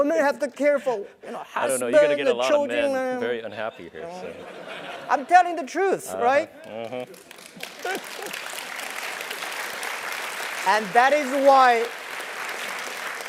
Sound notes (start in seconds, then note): 5.1 laugh; 9.6 applause